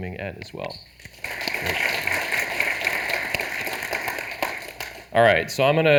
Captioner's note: audience applauding